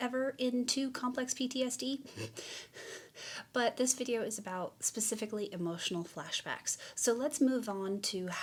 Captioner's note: chuckles